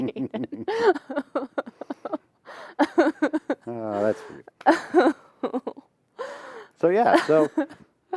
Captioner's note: laughter